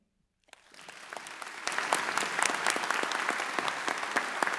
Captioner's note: audience applauds